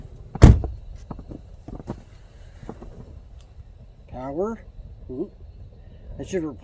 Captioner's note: door thuds